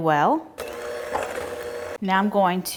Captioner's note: mixer whirring